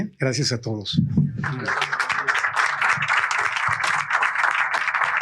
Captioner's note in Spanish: aplausos